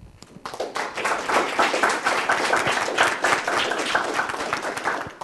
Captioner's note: applause